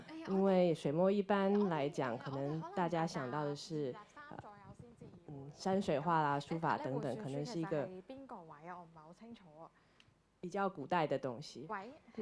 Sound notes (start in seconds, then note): 5.5 a lady talking on the phone